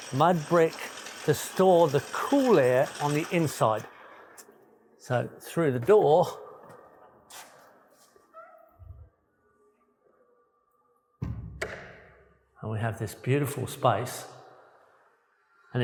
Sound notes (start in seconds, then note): 11.2 door thuds